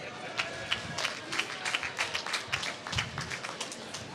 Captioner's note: applause